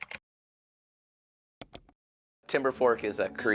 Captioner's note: keyboard clacking; mouse clicking